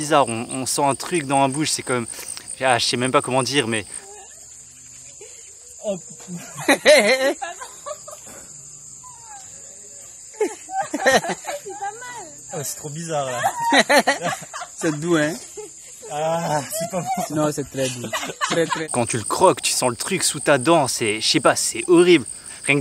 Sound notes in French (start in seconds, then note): 13.8 Rires